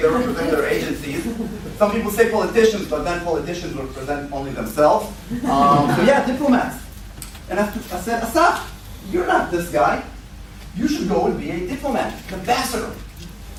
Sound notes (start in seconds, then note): 5.5 laughter